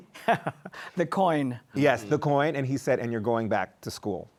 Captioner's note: laughs